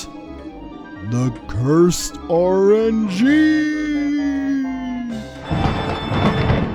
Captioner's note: elongating every word in a spooky voice; thunderclap